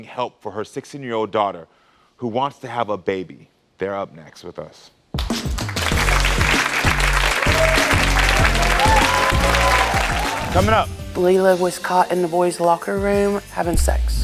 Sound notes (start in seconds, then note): 5.2 audience applauding; 5.2 upbeat music